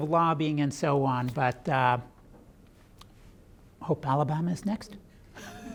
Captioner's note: laughs